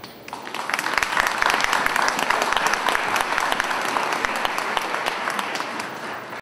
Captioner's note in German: Beifall